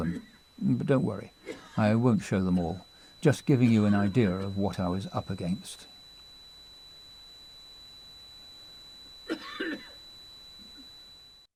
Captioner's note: coughing